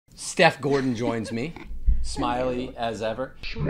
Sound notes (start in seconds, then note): 0.6 laughing